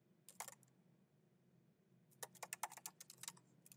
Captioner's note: keyboard clacking